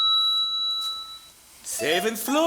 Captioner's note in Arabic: صوت المصعد